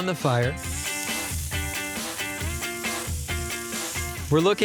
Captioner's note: sizzling